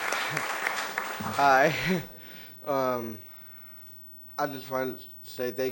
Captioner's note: applause